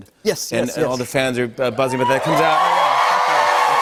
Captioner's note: cheers and applause